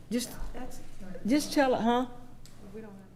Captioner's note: speaking quietly